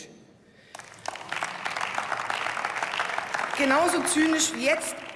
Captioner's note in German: Beifall